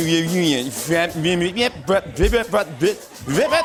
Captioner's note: imitating record scratching